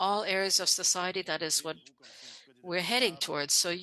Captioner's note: speaking French